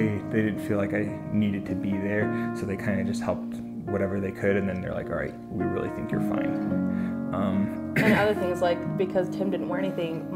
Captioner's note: clears throat